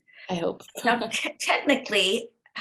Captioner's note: laughs